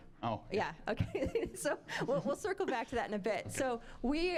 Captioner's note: laughing